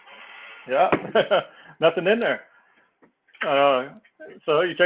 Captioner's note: laugh